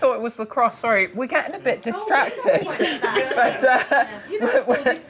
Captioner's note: laughing